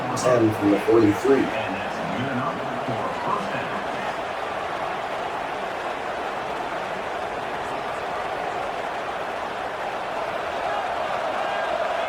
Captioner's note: crowd Noises